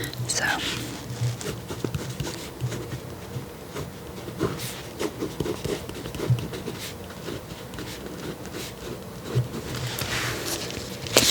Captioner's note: writing